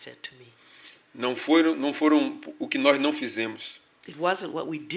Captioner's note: speaking portuguese